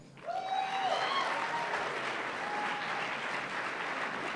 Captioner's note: applause